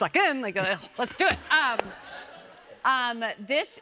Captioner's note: laughter